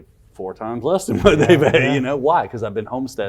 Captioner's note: laughs